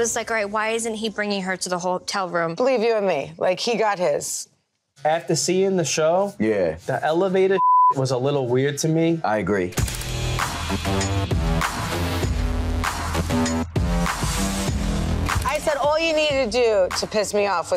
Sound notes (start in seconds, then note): 7.6 beep